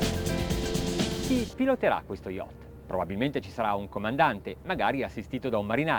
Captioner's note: speaking Italian